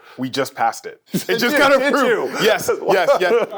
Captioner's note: laughing